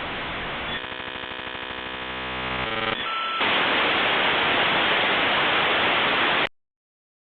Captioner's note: modem static continues; silence